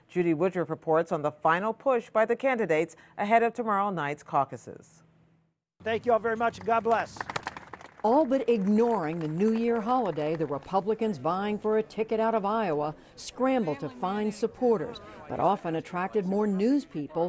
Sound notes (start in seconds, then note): 5.9 applause